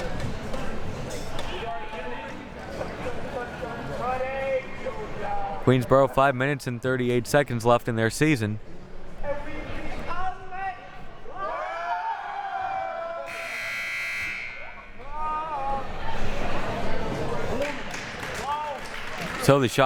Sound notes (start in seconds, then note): 1.9 refs and officials talking; 9.6 audience chattering and chanting; 13.2 buzzer buzzing; 17.5 audience applauding